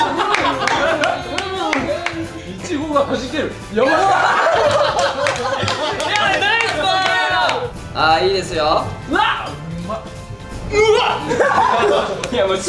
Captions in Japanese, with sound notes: 苺がはじける やばい！ （拍手） ナイスパーース！！ すげえなあ！！ あー、いいですよー うわっ！